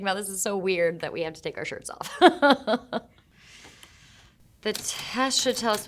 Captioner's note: Shailene laughing